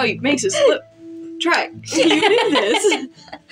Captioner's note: giggling; laugh